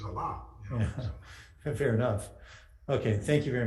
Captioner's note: laughing